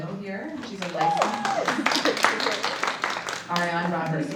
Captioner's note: audience applauds